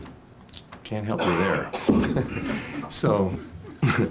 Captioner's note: laughs